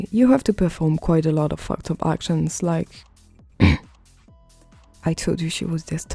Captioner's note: clearing throat